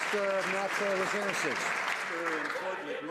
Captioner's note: some Applause